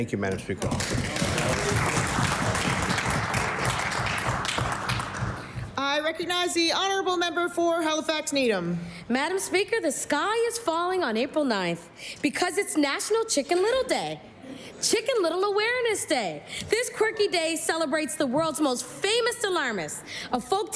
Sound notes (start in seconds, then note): 4.1 applause